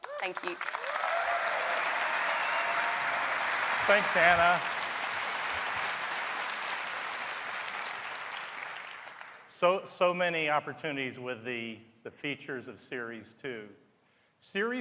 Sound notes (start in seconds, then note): 2.5 applause